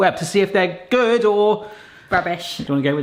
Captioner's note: none